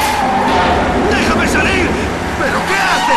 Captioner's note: sound of jet